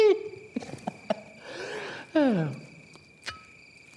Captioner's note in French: Rire